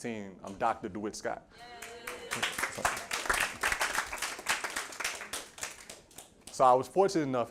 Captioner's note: applause and Cheering